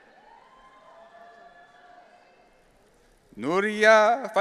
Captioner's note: audience cheering